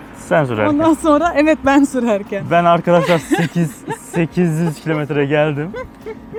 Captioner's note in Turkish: kahkaha